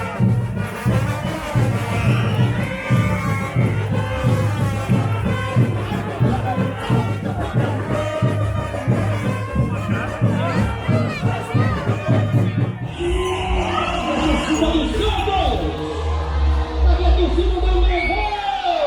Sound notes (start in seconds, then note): 12.7 announcer in the distance